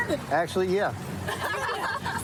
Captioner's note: laughter